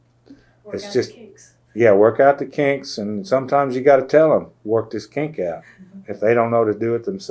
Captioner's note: laughter